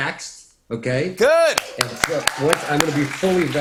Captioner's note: cheers and applause